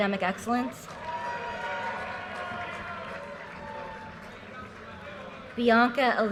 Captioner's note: audience cheers and applause